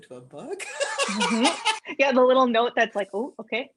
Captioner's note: laughter